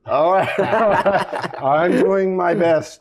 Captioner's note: laughter